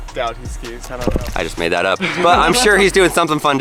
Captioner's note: laughing